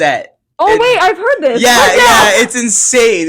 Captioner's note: laughing